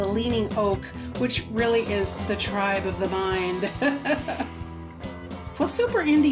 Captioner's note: laughs